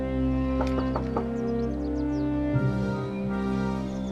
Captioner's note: knocking on door